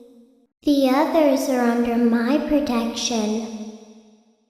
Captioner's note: little Girl's Voice